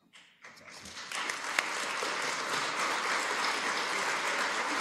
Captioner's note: applause